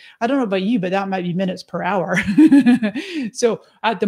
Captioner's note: laughs